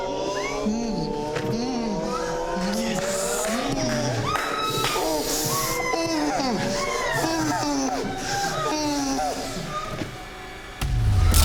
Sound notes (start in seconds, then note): 3.9 victims groaning; 7.9 dramatic music